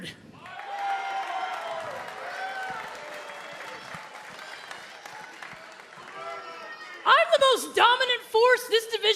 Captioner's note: cheers and applause